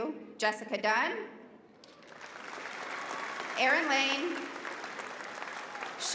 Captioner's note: applause